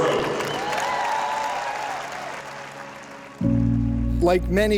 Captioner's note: applause